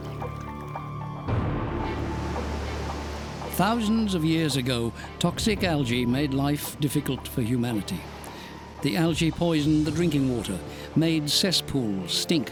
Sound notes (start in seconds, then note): 2.3 waves crashing